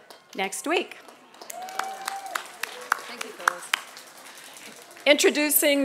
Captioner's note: applause